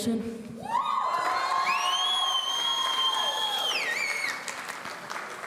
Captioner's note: audience cheering